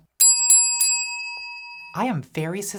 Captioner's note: bell ringing